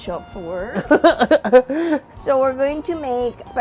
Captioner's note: laughing